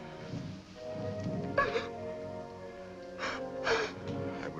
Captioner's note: sobbing